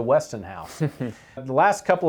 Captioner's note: chuckling